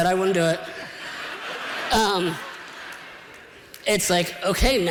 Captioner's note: laughter